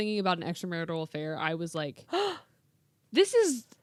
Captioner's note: gasps